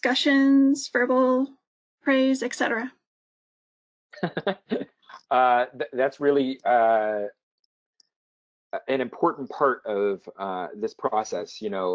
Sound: laugh

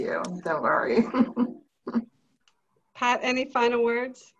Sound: laughs

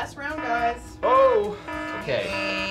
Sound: repeating alarm

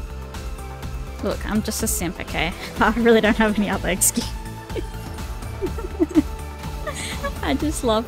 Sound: laughs

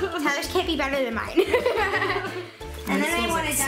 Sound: laughs

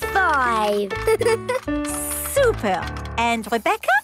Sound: giggles

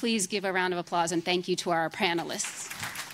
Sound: applause

